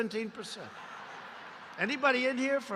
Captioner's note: laughter